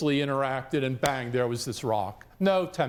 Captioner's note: claps hands